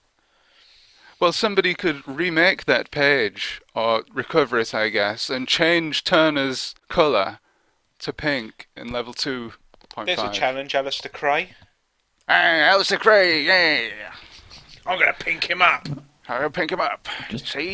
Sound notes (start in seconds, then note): 12.1 '50s gangster voice